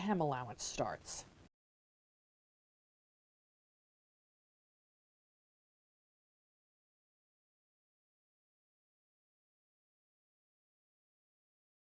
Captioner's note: no Sound Present